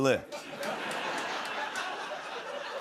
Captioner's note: laughter